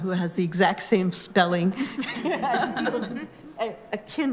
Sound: laughter

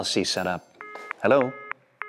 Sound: phone beeps

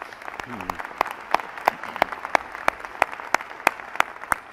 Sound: applause

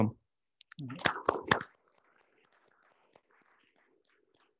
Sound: applauds

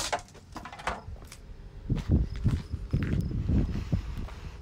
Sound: footsteps on gravel; wind blowing

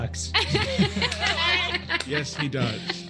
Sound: group laughs

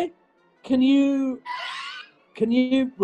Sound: sniggering

